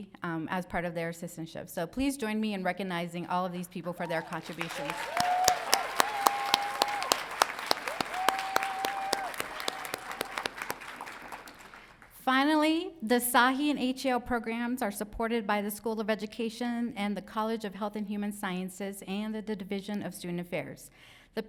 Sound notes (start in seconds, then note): 4.0 crowd cheering